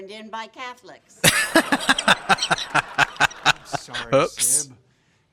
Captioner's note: laughing